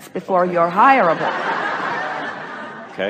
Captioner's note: the audience laughs